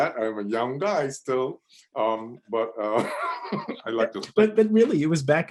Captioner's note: laughs